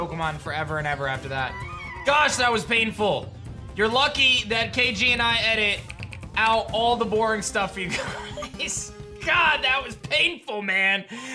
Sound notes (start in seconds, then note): 7.9 chuckles